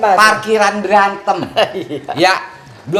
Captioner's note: laugh